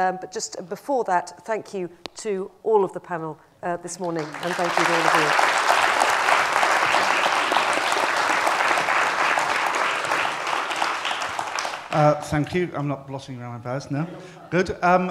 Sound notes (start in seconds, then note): 6.1 applause